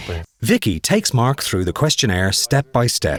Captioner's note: voiceover